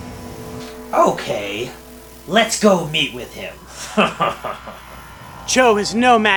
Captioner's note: laughs